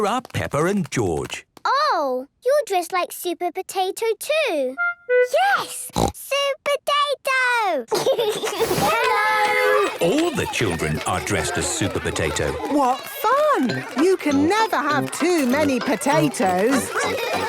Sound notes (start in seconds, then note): 5.8 snorts; 7.9 giggles